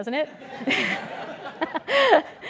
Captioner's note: laugh